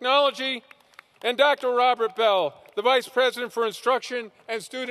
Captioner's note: applause